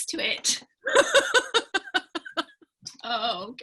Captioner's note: laughing